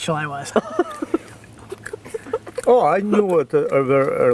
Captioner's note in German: Lachen